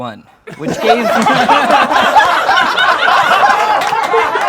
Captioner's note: laughing